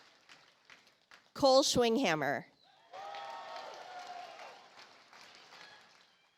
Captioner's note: audience applauds